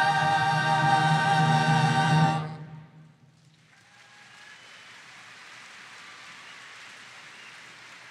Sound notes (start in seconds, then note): 3.6 audience applauding